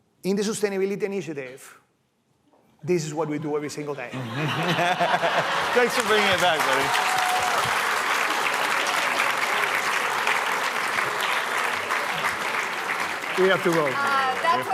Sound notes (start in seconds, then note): 10.1 applause